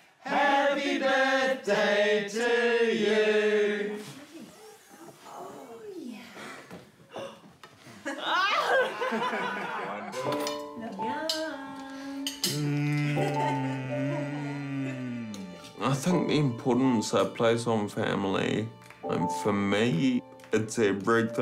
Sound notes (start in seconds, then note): 7.1 gasps; 7.9 laughter